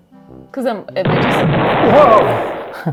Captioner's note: explosion blasting